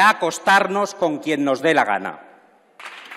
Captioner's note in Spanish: Aplausos